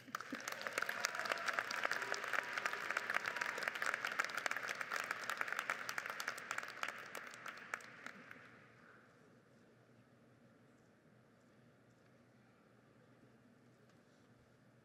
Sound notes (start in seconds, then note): 0.0 audience applauds